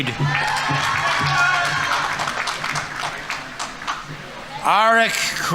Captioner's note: audience applauding; audience members cheering